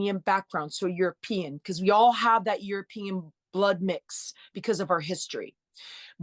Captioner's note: none